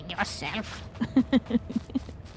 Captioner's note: laughter